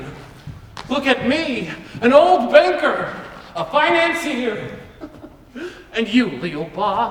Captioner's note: chuckles